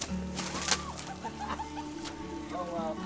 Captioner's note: laughter